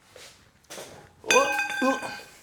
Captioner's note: pipe clangs